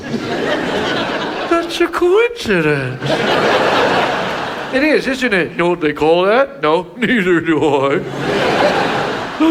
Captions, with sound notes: (audience laughs) That's a coincidence. (audience laughs) - It is, isn't it? - Know what they call that? - No. - Neither do I. (audience laughs)